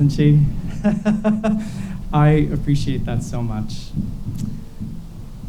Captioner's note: laughs